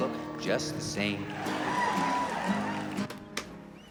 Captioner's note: crowd cheering